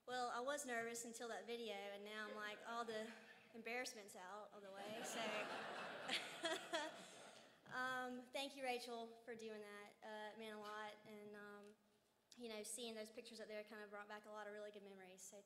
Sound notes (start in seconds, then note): 4.8 laughs